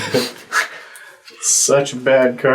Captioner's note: all laugh